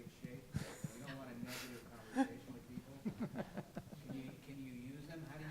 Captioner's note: laughter drowns out speaker